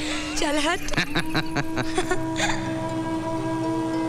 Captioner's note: Laughs